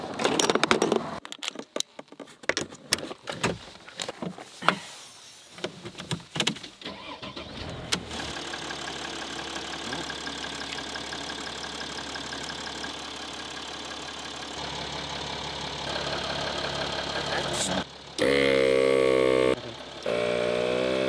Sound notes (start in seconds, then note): 1.2 tools clinking; 6.9 car engine ignites; 9.0 car engine running; 18.1 machine buzzes